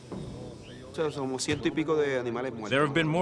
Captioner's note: speaking spanish